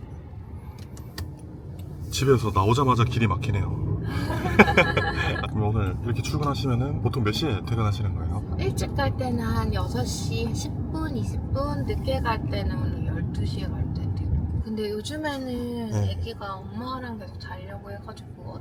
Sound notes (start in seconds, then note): 4.1 chuckles